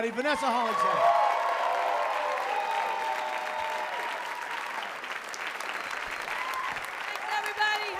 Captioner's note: applause